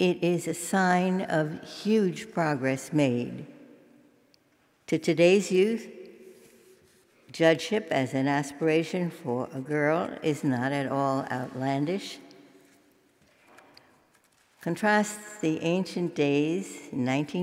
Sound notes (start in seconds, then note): none